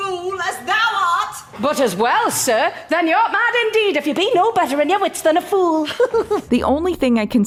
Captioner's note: laughs like a silly little guy